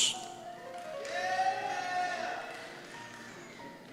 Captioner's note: cheers